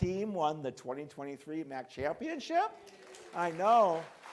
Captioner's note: crowd cheering and clapping